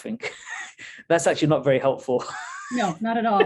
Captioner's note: laughs